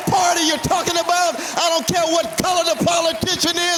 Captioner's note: cheers and applause